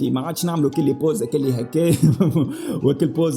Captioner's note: giggles